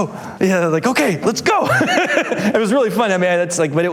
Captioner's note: laughs